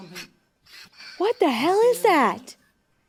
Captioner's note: alien hissing